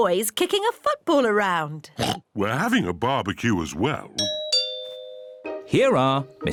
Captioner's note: oinks; doorbell rings